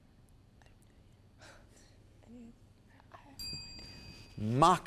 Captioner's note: timer dings